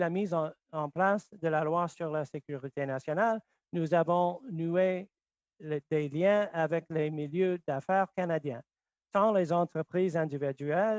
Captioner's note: speaking French